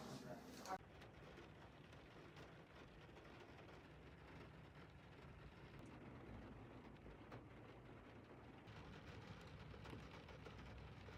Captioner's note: rain on windshield & car roof sounds